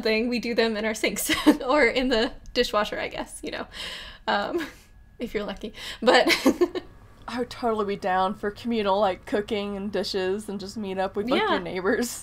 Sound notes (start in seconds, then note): 6.4 laughs